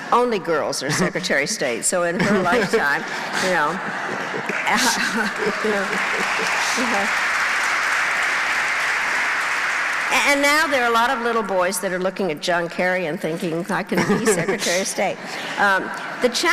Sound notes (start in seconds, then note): 6.1 applause